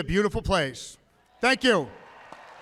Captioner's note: applause